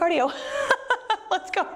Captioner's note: laughs